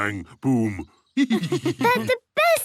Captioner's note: laughs